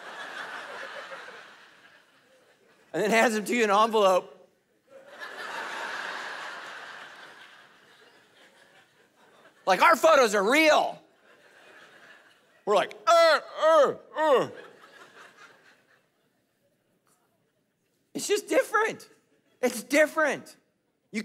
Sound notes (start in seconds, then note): 0.0 congregation laughing; 4.8 congregation laughing; 13.1 grunting; 15.1 congregation laughing